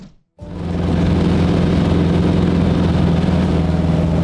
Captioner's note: plane hums